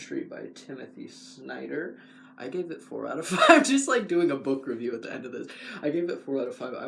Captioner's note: laugh